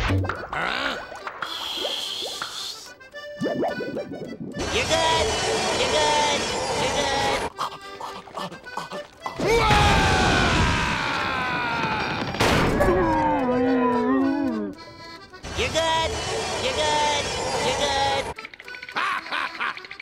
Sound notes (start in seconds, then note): 9.4 screaming; 12.1 thudding; 18.7 laughing